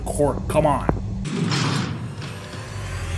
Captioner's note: jail Cell door slam sfx